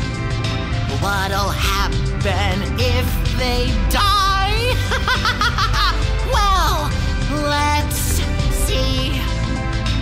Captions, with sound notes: "What'll happen if they die?" (Flowey laughs hysterically) "Well, let's see!"